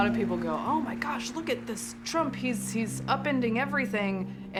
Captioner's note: crowd cheering